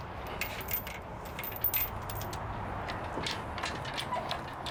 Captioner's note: clanking